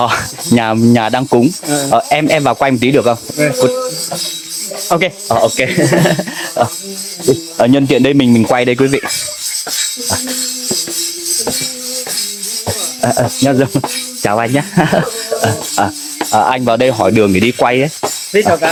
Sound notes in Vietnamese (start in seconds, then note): 5.6 tiếng cười